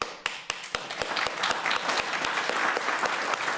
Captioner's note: crowd applauding